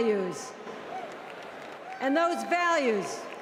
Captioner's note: cheers and Applause